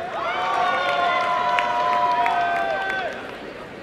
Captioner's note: applause and cheering